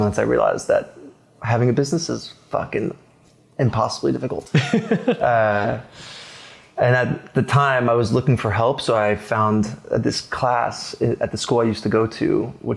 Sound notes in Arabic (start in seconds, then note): 4.5 يضحك